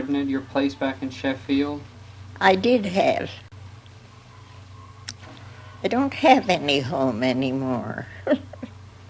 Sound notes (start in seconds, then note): 8.0 chuckles